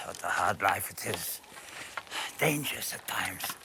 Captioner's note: sighs